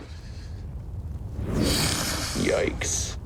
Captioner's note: whoosh